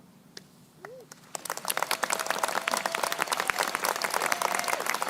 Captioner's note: crowd applauding